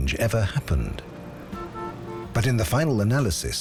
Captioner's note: car horn honks